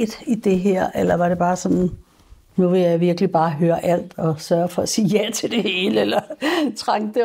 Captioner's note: chuckles